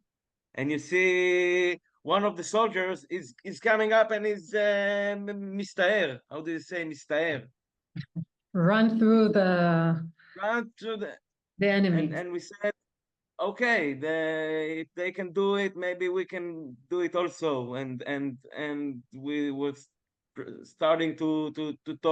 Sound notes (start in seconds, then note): 5.8 in Hebrew